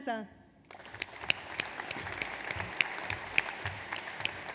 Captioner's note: audience applauds